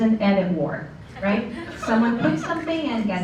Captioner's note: laughter